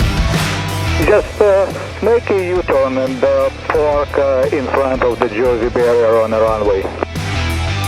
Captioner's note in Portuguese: rádio